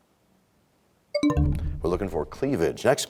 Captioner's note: bell chimes, time expires